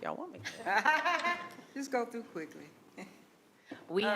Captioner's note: laughs